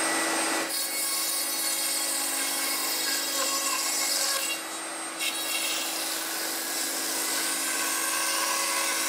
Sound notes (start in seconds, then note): 0.7 grinding sound